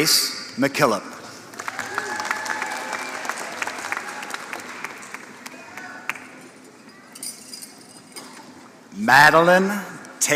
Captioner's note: applause